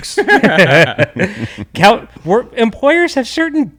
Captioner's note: laughs